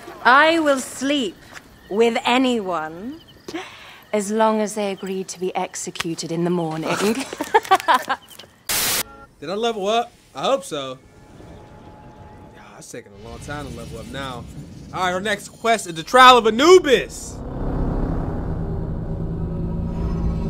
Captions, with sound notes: - I will sleep with anyone! As long as they agree to be executed in the morning. (static) - Did I level up, I hope so. It's taking a long time to level up now. All right, our next quest is the Trial of Anubis. (ominous music)